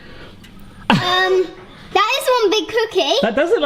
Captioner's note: laughs